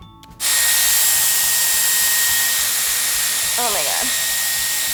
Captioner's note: dryer whirs